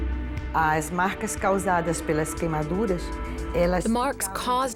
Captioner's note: speaking Portuguese